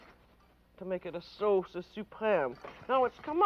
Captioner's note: speaks French